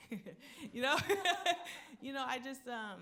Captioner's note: laughing